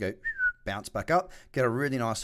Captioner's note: whistles